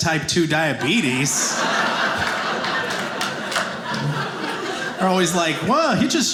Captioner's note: audience laughing